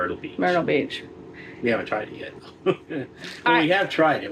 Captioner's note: laughing